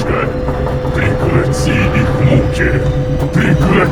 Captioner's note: knocking